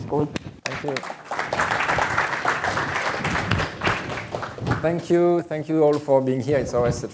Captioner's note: applause